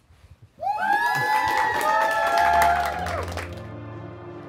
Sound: cheering; ominous music

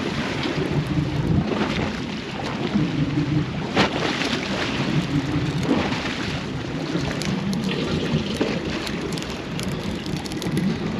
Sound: splashing

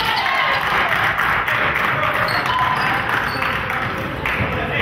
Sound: crowd claps

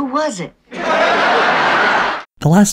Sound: audience laughter

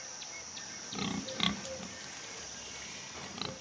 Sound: grunting

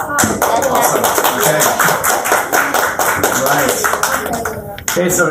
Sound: applause

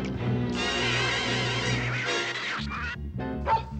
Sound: hissing and yowling; barking

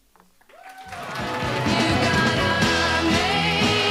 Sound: audience applauding

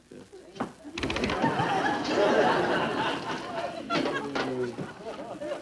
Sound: audience laughing

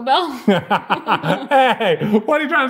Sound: both laughing

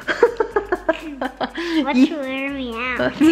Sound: laughing

